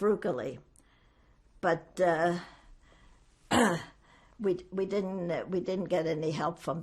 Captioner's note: clears throat